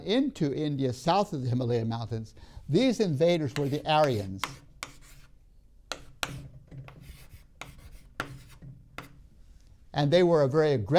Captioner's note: chalk sounds